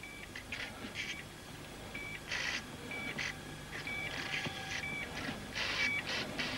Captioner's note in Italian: segnale acustico intermittente